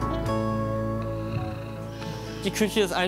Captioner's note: snoring, music quietens down